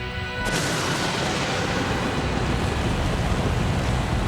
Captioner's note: fire blasting